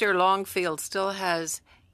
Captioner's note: speaking french